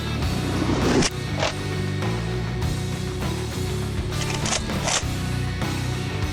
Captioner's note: heavy guitar music; clicking